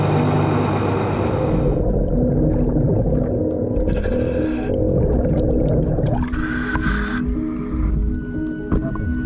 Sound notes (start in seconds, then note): 1.4 water bubbling; 1.8 scuba breathing